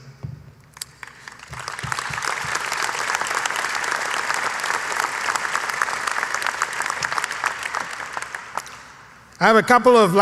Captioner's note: applause